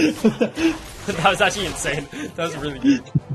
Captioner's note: laughing